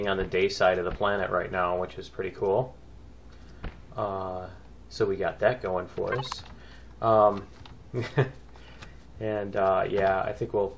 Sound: laughs

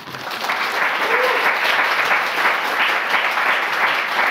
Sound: audience applauding

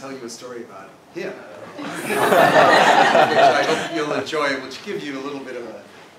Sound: laugh

